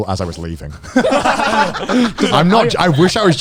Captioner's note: all laughing